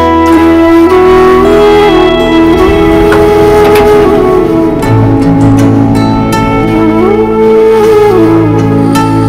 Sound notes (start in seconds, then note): 2.2 Elevator door opens